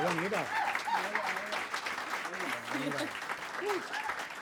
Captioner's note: applause and cheering continue